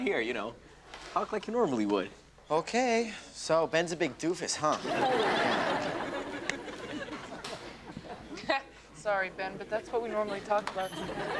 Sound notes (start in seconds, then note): 4.7 audience laughs; 8.5 chuckles